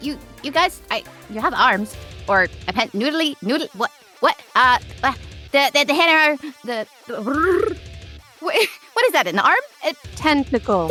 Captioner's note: trills